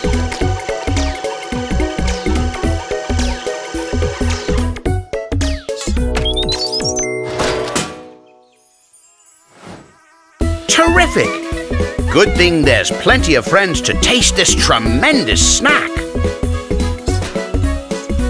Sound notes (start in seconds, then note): 6.2 beeps